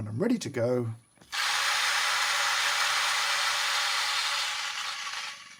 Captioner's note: machine whirring